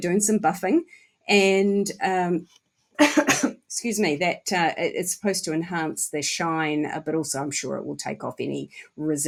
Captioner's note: cough